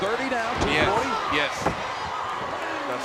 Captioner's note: applause